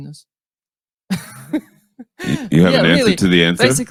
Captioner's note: laughs